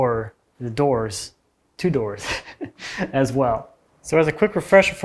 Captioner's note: chuckles